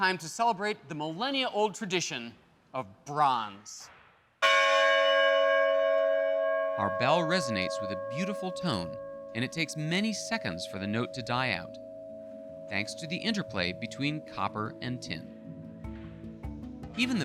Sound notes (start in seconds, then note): 4.7 bell rings clearly